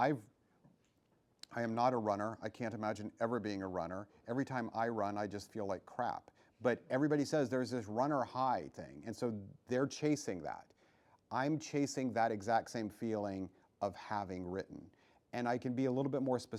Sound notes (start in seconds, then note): none